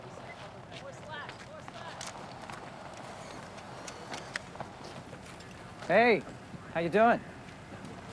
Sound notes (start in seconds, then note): 2.0 camera clicking